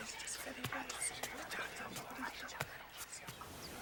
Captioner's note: whispering continues